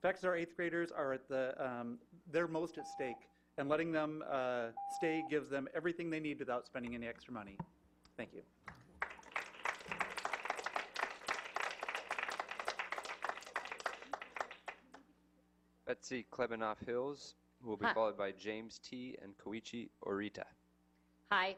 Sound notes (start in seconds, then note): 11.1 clapping